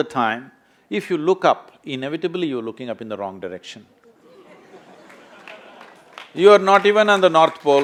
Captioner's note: laughter/Applause